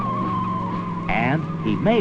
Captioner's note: tires screeching